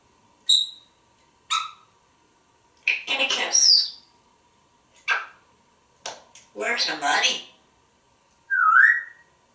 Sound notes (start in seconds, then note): 4.7 smooch!; 8.5 whistling